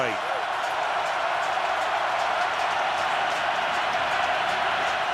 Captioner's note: crowd cheering